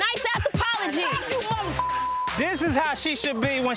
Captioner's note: beep